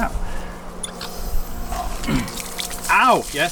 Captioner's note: water rushing